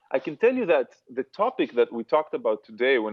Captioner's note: none